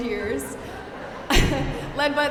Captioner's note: audience laughing